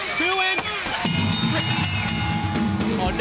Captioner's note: bell ringing